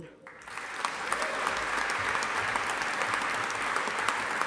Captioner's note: audience applauding